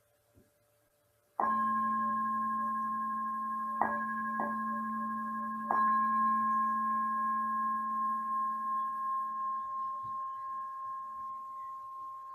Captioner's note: bell